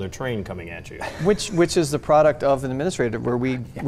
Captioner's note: laughs